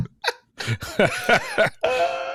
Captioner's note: laughter